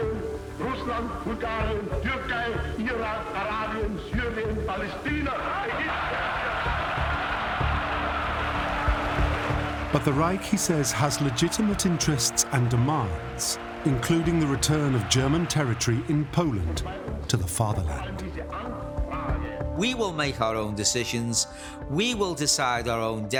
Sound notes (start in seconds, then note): 5.4 wild cheering